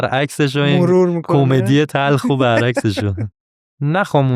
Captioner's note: laughs